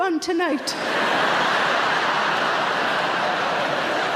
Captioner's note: audience laughs